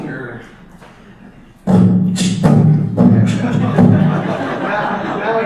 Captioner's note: begins to beatbox; audience laughter